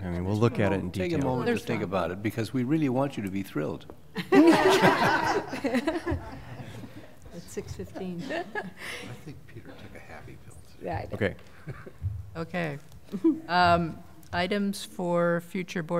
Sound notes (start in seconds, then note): 4.1 laughter